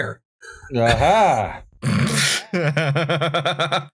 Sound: derisive laughter

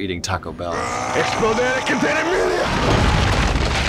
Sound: shouting

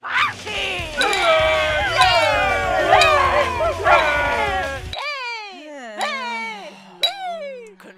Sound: clinking glass

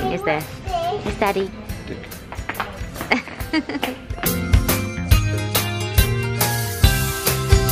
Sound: happy guitar music; laughing

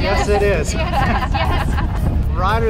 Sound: laughter

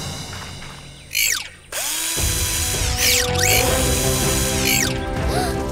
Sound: drill running

